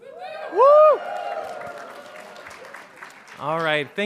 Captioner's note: audience cheering